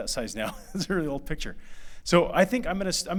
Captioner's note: laughter